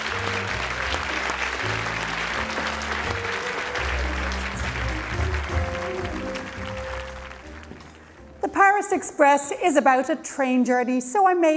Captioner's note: cheering and Applause